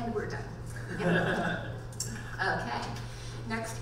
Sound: panel members laughing

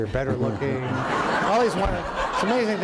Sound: laughter

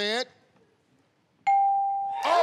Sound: ding

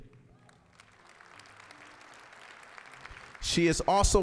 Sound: applause

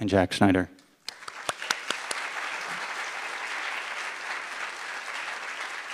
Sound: audience applauding

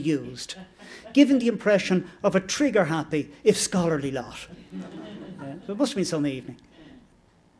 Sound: laughter

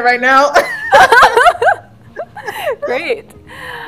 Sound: laughter

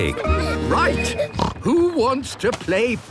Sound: snorts

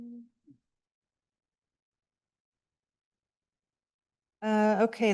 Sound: silence

